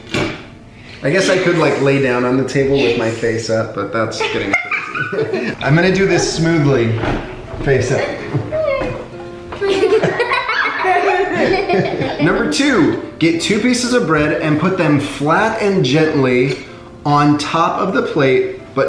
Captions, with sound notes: I guess I could lay down on the table with my face up, but that's getting crazy. I'm gonna do this smoothly face up. (laughing) Number two, get two pieces of bread and put them flat and gently on top of the plate